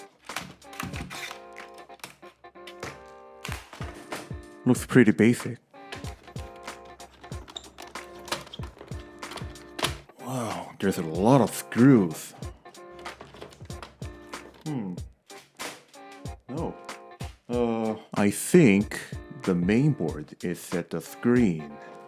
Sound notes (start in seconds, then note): 3.3 popping noises; 5.8 more unscrewing noises